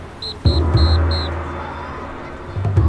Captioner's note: whistle sounding